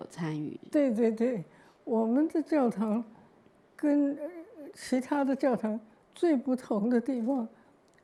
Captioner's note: Mandarin